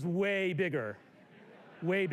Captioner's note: laughter